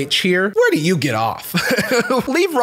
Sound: laughs

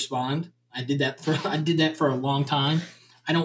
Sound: chuckles

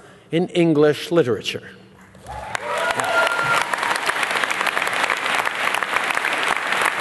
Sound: applause

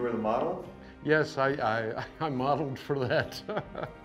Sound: laughs

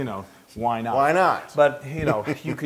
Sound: laugh

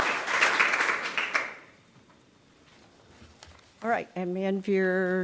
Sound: applause

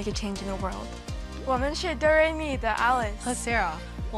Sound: speaking Mandarin

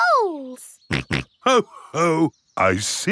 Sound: snorts

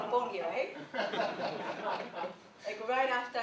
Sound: laughter

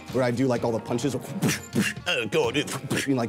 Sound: imitates punching noises

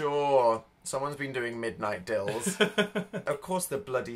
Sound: laughing

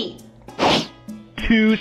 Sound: swiping swoosh

